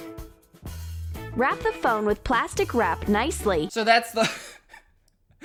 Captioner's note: laughing bcus of how dumb this is